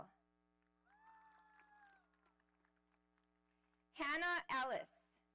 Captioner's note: audience applauding